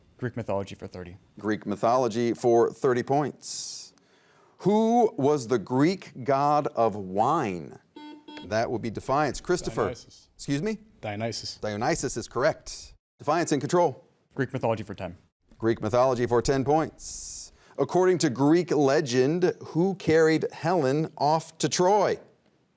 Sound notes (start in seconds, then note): 7.9 buzzer beeps